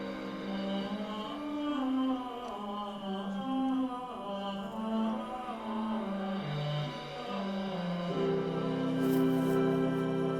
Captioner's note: chanting